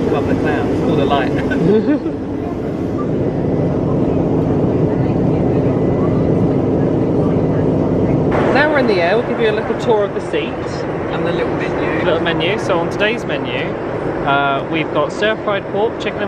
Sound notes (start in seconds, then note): 1.3 chuckling; 3.4 engine rumbling